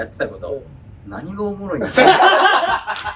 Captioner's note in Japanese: 笑い声